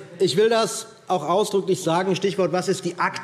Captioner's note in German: none